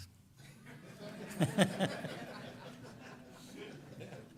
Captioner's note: laughter